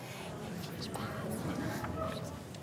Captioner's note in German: flüstert